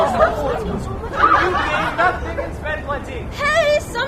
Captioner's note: laughter